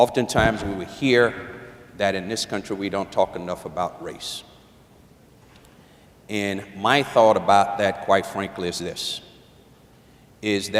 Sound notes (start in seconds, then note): none